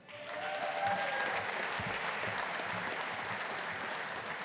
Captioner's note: audience applauding